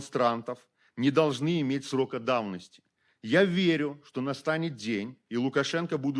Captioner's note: speaking Belarusian